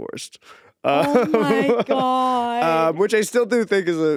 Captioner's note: Eddy laughing